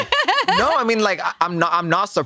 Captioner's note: laughs